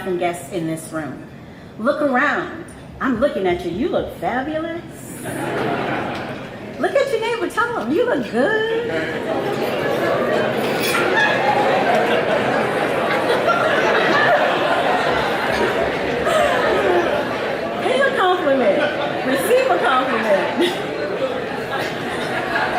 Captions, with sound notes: and guests in this room. Look around. I'm looking at you, you look fabulous. (audience laughs) Look at your neighbor, tell 'em, "You look good." (audience murmuring) (audience laughing) (audience murmuring) (audience laughing) Pay a compliment, receive a compliment. (chuckles)